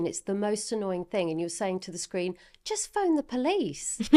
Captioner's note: laughing